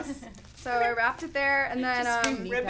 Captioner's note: women laughing